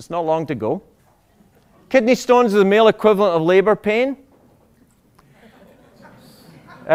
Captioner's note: laughter